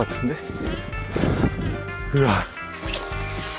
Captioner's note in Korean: 점점 가빠오는 숨